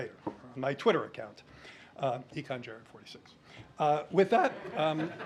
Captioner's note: laughter